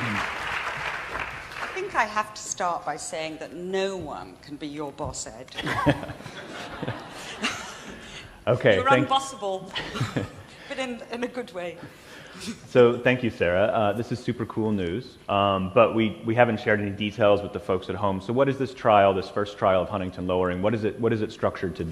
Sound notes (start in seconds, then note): 0.0 applause; 5.5 laughter